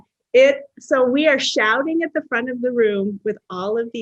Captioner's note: none